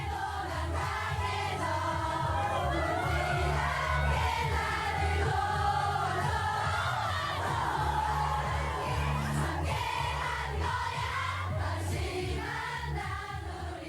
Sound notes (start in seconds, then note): 3.0 soundbite of archived recording; 10.4 singing in Korean